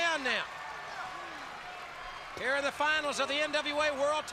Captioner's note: crowd cheering